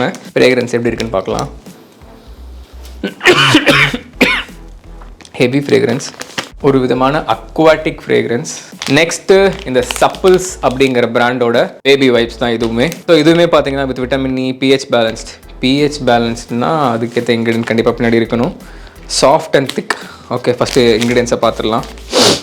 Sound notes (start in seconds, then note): 3.0 coughs